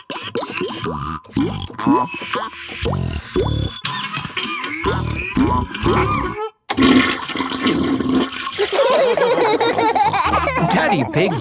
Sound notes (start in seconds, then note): 6.7 toilet flushing; 8.6 laughter